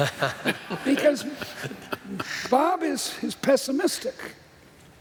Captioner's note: laughter